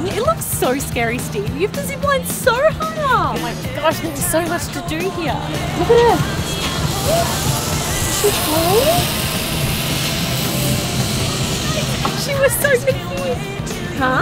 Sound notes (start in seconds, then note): 9.6 zip line whirring